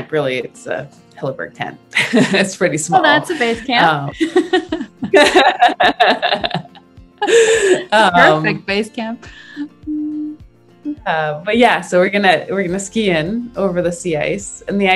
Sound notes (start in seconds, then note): 2.9 both laugh